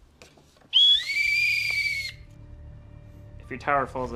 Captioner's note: whistle